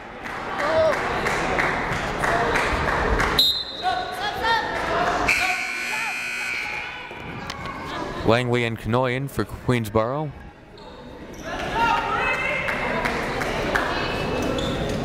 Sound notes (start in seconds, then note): 3.6 whistle blaring; 5.2 buzzer blaring